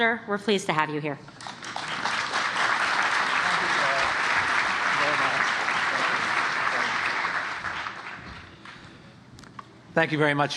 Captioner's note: applause